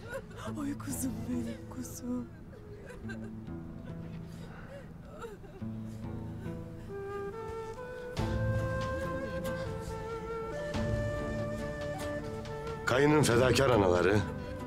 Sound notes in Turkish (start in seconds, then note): 2.8 Ağlama sesleri